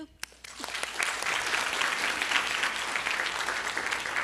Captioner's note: audience applauds